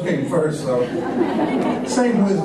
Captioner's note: laughter